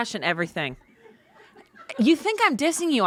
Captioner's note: crew laughs